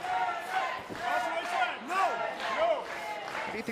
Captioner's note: fans chanting